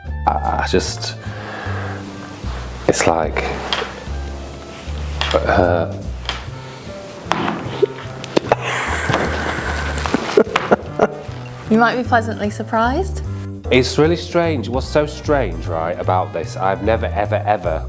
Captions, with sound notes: I just- It's like- *laughter* You might be pleasantly surprised It's really strange What's so strange, right, about this I've never, ever, ever